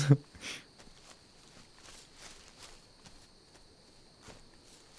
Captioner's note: footsteps on leaves and nighttime ambience